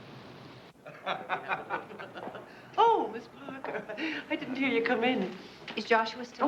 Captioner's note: Tertawa